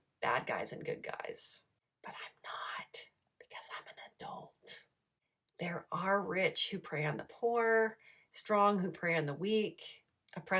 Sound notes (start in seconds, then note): 3.6 whispers